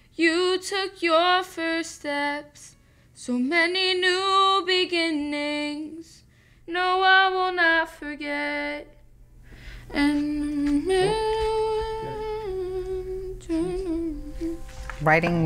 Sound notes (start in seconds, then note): 9.5 humming